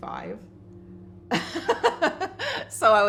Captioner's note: laughs